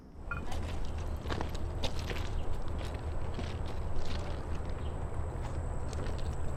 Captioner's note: footsteps crunching over chirping birds